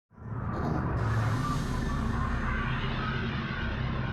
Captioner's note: scene whooshing